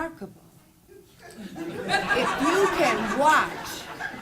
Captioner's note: laughing